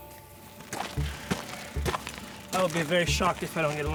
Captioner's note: approaching footsteps